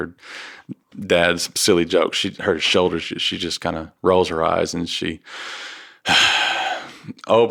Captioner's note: sighs